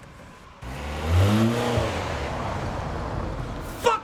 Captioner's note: engine revving